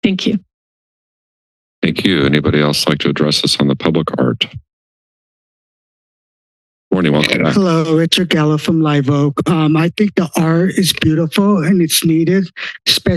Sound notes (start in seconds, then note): 4.8 silence